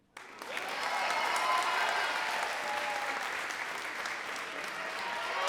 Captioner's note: audience cheering and clapping